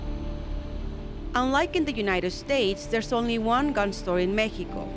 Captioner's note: voiceover